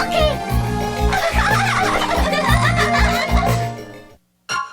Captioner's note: laughing